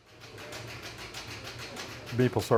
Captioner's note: machinery tapping